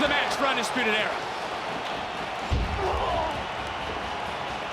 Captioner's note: crowd cheers